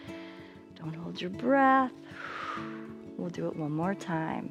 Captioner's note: exhales